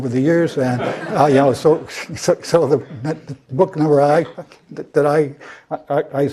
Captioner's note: laugh